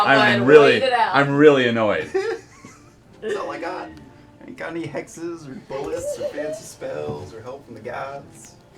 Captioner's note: laughing